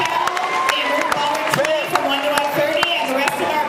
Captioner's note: cheers